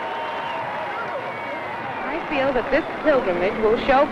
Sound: crowd cheering

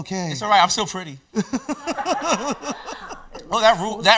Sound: laughs

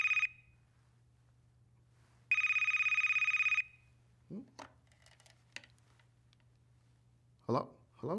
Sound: phone ringing; phone ringing

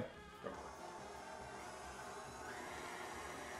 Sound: mixer whirring

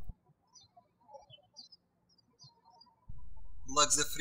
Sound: birds chirping

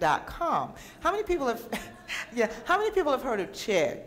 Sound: giggles

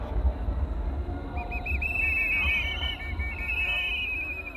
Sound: whistles blow

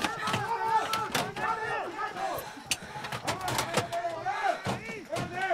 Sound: men yelling in foreign language

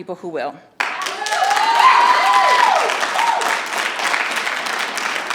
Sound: audience applauding

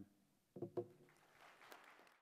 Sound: applause

